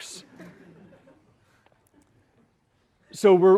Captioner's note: laughter